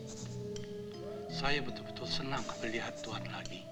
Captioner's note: Malay spoken audio